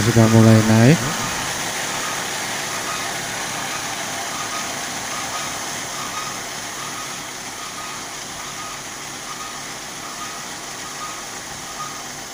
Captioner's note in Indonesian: suara mesin